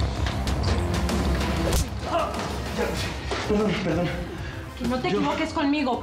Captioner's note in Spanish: ruido de la bofetada